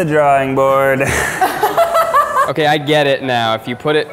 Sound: laughing

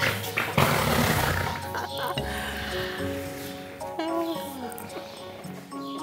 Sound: laughing; Ayana passing gas

